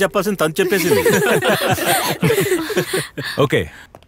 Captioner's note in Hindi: हर कोई हंसता है